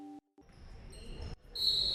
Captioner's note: gym sounds; whistle blows